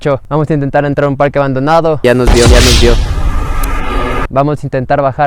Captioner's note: echo